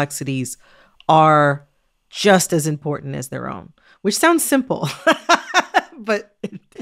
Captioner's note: laughter